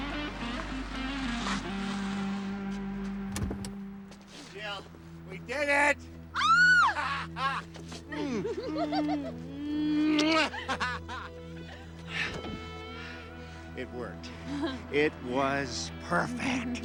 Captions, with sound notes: Jill, we did it! (Jill screams) (Jill giggles) (Jeff laughs) It worked. It was perfect.